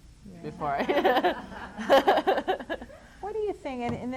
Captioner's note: laughs